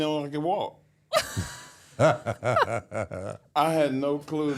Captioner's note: Michelle and Undertaker laughing